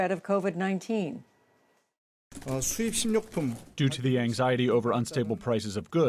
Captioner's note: through translator